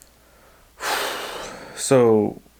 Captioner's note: exhales